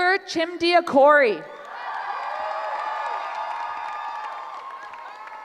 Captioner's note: cheering